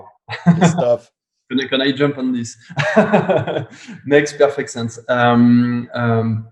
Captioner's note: laughs